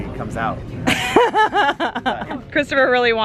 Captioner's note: laughing